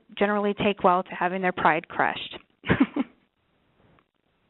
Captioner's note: laughs